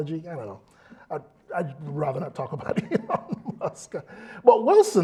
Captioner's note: laugh